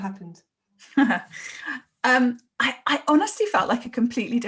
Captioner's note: laughs